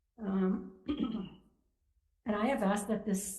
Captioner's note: clears throat